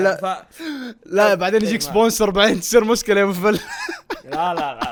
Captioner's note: laughs